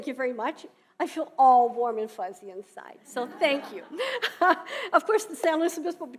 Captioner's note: laughing